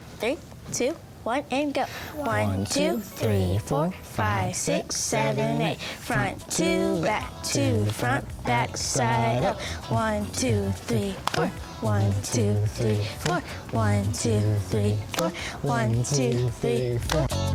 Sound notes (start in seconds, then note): 11.2 all clap; 17.3 upbeat music